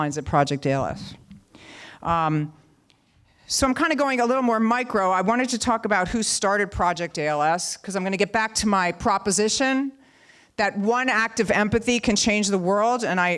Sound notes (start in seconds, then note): none